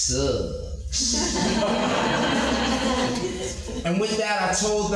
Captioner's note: hearty audience laughter